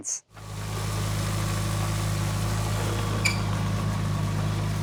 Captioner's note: forklift rumbling